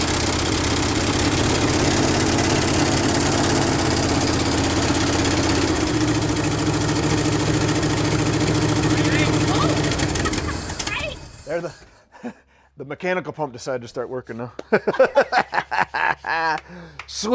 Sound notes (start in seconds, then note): 8.8 laughs; 14.6 laugh